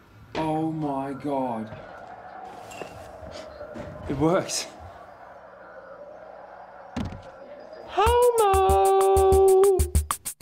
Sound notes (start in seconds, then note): 7.0 body hitting the floor